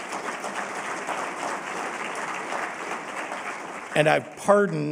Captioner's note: applause